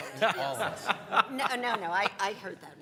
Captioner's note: laughing